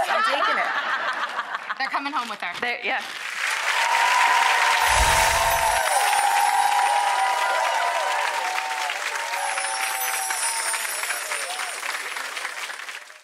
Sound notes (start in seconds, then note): 1.5 laughing; 3.2 audience cheering and applauding